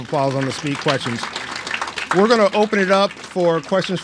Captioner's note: applauds